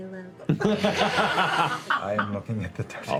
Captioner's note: laughter